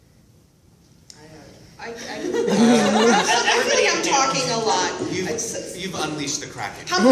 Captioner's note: laughter